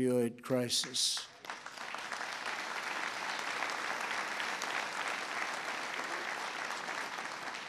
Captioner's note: applause